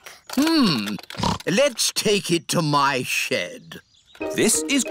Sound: snorts

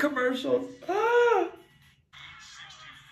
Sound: gasps

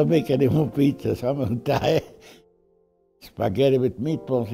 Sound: laughs

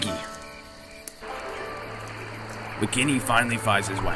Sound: nature sounds

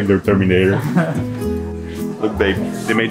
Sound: laughs

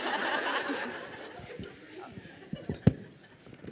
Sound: laughter

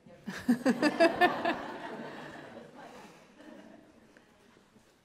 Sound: laughter

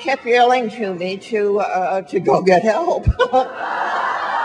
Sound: laughs; audience laughing

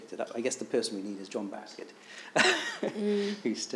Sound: laughing

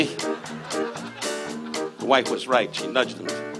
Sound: audience laughs

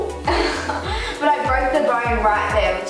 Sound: laughs

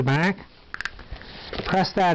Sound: snaps cover into place

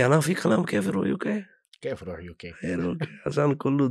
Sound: in Arabic

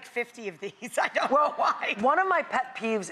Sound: laughs

